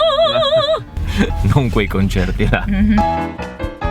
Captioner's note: laughing